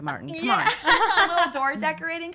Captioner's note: laughs